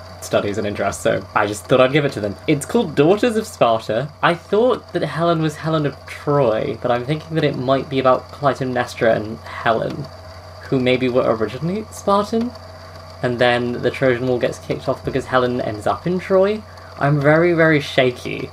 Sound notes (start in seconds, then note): none